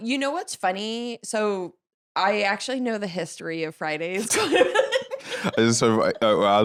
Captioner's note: laughs